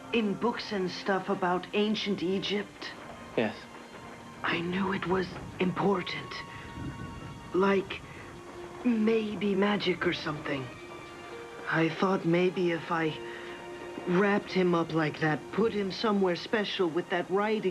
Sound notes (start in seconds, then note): none